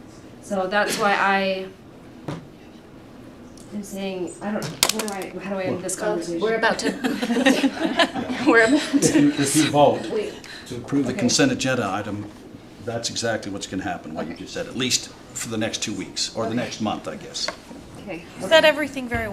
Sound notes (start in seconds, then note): 6.8 laughter